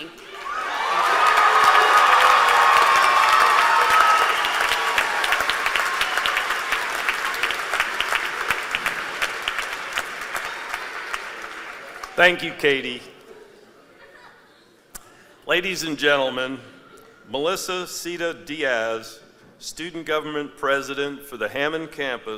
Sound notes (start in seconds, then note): 1.8 applause